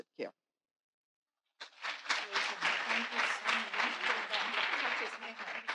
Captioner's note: audience applauding